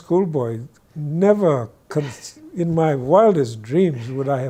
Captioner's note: guy laughs